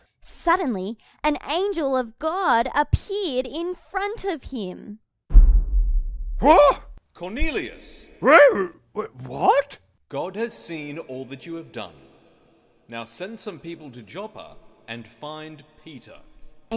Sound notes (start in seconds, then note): 6.4 Cornelius gasping